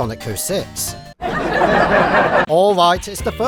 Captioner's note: fake audience laughter